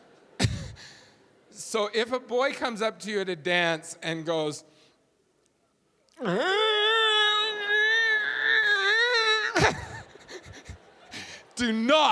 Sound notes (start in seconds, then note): 0.0 audience laughing; 6.2 loud grunting; 9.4 audience laughing